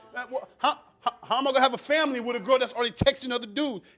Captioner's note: stammering